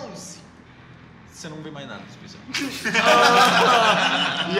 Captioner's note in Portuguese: risos